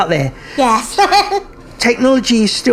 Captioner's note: laughs